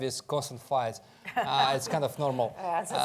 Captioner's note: laughs